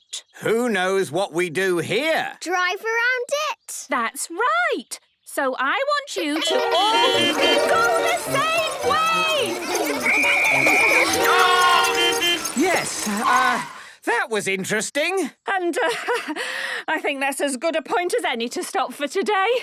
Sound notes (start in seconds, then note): 6.4 beeping; 10.0 whistle blowing; 11.9 beeping